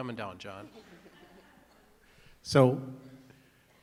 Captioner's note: attendees laughing